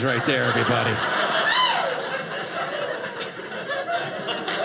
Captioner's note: audience laughing